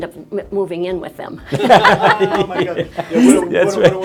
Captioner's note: all laughing